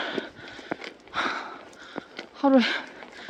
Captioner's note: rough inhalation and exhalation